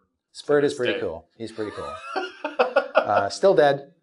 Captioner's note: laughing